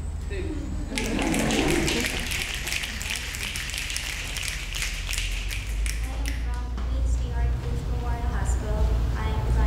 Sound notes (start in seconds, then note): 1.0 snapping